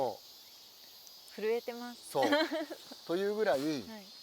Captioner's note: laughs